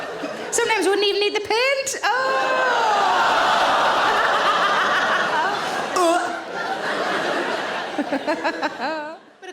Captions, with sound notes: Sometimes wouldn't even need the paint. (audience groans) (audience laughs)